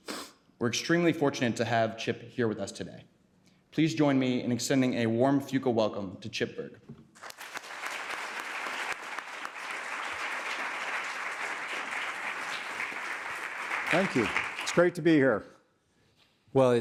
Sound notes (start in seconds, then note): 7.1 applause